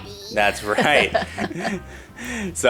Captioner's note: both laugh